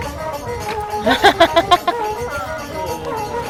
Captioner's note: laugh